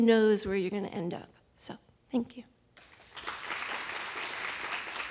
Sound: applause

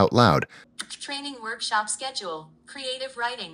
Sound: computerized voice

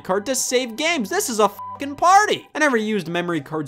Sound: beep

